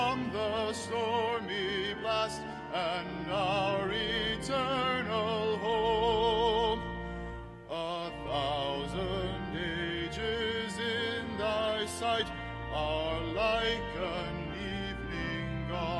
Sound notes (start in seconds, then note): none